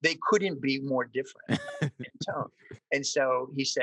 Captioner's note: laughs